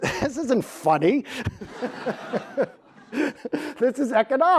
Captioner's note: laughs